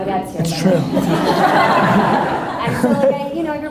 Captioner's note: audience laughter